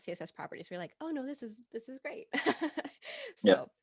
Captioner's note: laughing